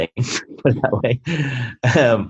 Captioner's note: laughing